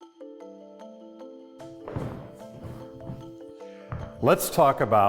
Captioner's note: boots thudding; concerned music